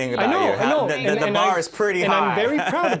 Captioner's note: laughter